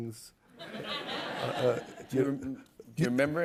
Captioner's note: laughter